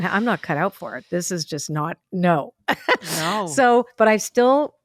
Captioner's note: laughs